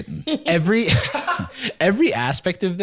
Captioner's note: laughs